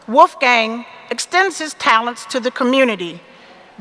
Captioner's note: none